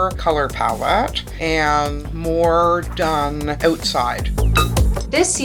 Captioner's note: bottles clink